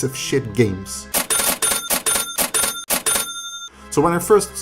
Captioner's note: ca-ching